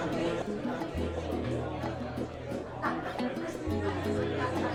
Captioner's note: people chattering